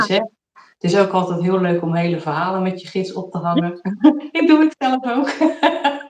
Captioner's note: laughs